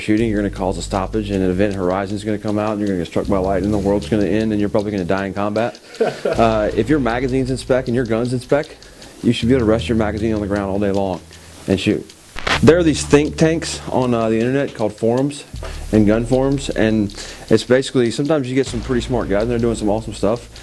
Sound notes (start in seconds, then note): 5.6 reporter laughs